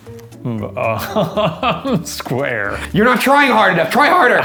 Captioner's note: laughing